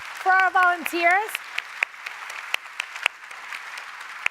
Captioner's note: applause